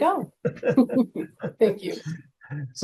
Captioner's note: laughing